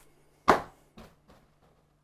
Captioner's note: smack